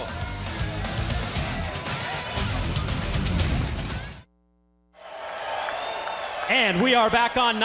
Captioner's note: crowd cheering